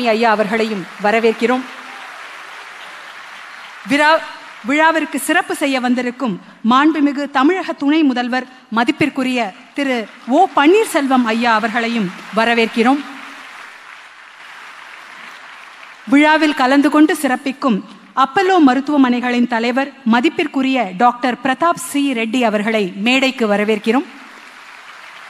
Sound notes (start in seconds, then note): 0.0 applause; 0.1 cheering; 10.0 cheering; 11.4 applause